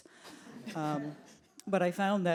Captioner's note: audience laughs